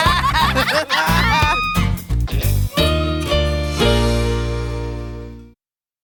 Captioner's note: all laughing